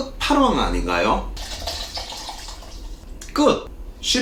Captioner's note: pouring